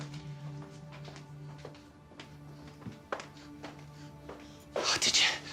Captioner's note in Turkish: Ayak sesi